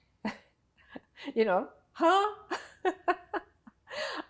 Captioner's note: laughing